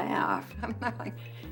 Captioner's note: chuckles